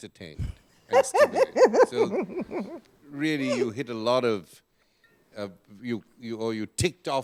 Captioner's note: laughter